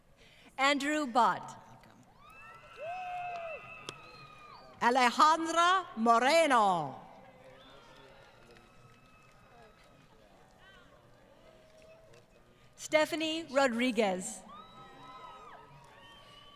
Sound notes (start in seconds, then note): 4.4 applause